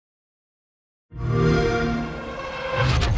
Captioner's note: xbox sound